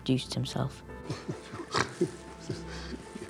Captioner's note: chuckles